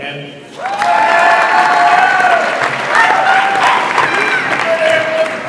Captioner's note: audience applauds and cheers